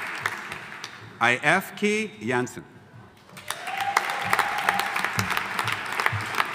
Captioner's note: audience applauding